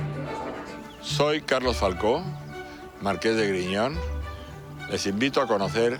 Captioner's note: speaking foreign language